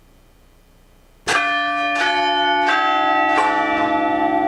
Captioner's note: bell peals